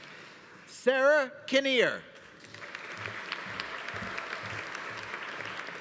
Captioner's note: audience applauding